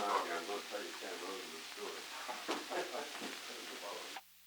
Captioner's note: background conversations